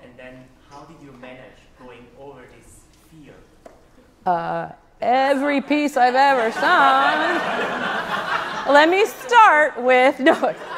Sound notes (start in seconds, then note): 6.3 audience laughs